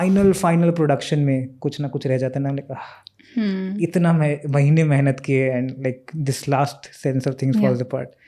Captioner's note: speaks in Hindi